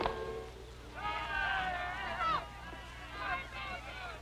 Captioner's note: crowd shouting